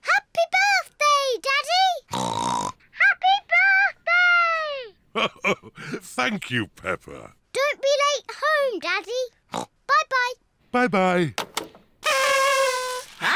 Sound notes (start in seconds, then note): 2.1 oinks; 5.1 chuckles; 9.5 oinks; 12.0 kazoos trumpet